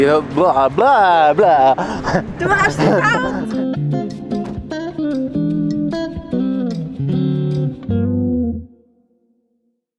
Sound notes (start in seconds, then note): 2.5 in Swiss German; 2.7 laugh